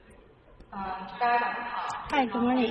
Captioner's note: speaking in foreign language